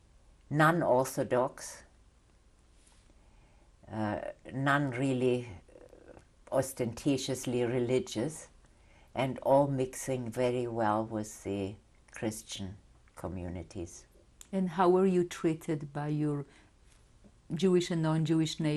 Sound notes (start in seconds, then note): 0.0 pauses for 3 seconds; 1.5 pauses for 3 seconds